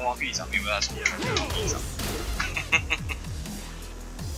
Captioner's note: laughs